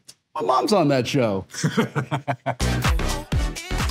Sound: Doug laughing

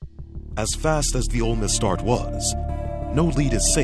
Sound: voiceover

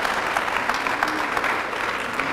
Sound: applause

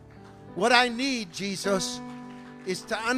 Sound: congregation clapping

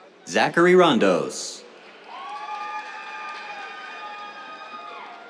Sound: cheers, applause

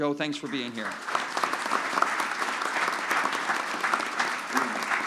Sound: applause

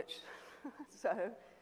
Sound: laughs

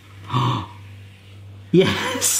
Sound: gasping

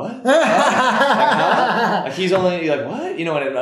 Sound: laughs

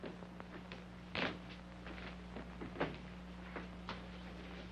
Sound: footsteps banging

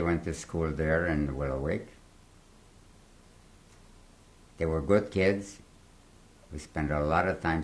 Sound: pauses for 3 seconds

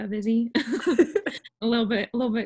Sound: laughter

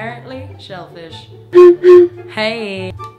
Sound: bottle toots

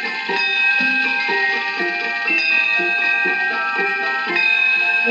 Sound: DIng Ding; ding

